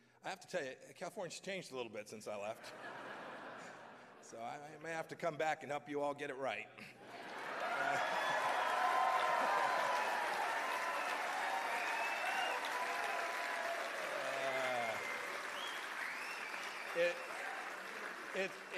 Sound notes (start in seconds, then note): 2.5 laughter; 11.4 cheers and applause